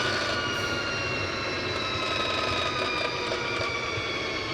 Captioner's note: engine revving